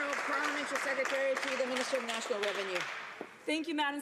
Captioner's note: some Applause